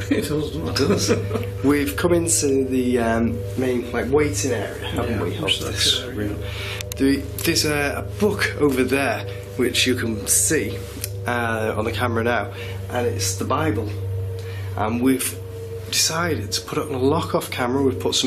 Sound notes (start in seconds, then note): 0.6 laughing